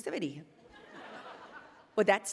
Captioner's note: attendees laughing